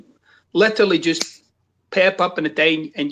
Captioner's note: snaps fingers